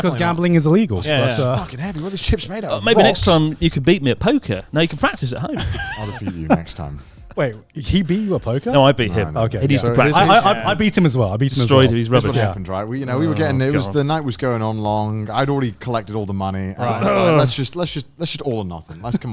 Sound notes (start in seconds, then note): 5.5 chuckles; 16.5 grunts